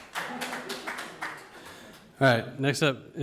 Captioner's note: audience applauds